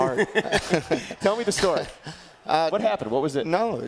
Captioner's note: laugh